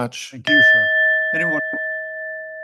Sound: bell continues ringing; bell ringing

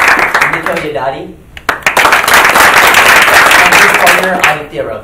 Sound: applauding

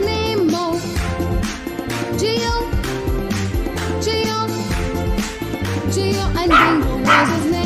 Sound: clap – Clap – Clap

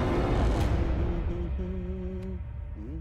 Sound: humming

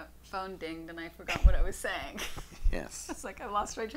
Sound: laughs

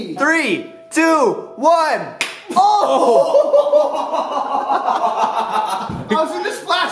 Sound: laughter

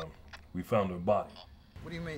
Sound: static buzzing

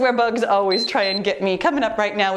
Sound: timer beeps

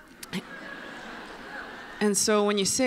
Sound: laughter

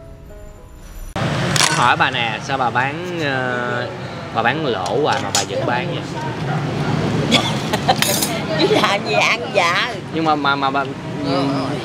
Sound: chatting

